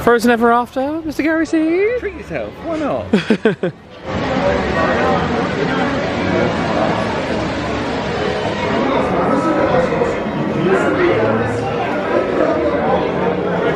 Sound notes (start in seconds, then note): 3.0 laughing; 4.4 water splashing